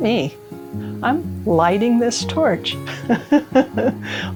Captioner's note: laughs